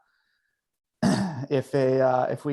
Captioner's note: clears throat